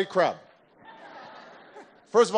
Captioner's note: laughter